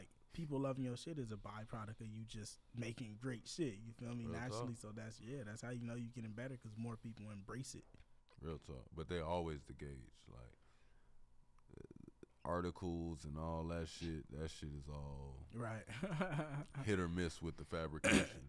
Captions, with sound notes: people loving your shit is a byproduct of you just making great shit naturally. So that's how you know you getting better, cuz more people embrace it. - Real talk, but they always the gauge, articles and all that shit, that shit is all- - Right. (laughs) - Hit or miss with the fabrication.